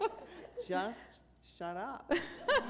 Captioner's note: laughter